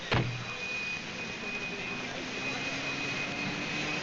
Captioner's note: police sirens